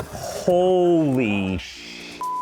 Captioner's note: beep